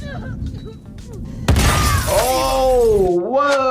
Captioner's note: woman cries out; explosion